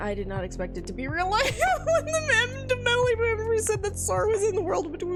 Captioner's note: laughs